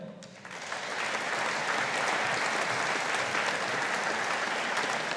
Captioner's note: audience applauding